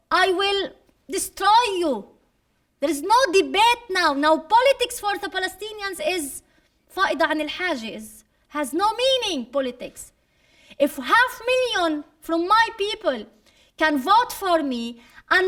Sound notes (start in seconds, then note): 6.2 speaking arabic